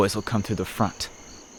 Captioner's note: crickets chirp